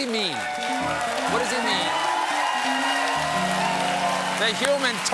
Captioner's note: cheers and applause